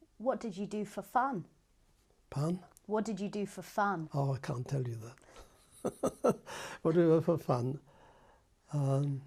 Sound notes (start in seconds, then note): 5.7 laughs; 7.8 pauses for 3 seconds